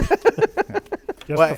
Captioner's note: laughter